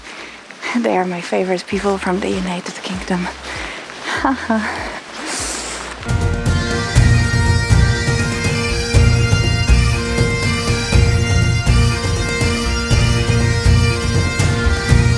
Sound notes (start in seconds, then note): 4.0 chuckles; 5.8 dramatic Scottish music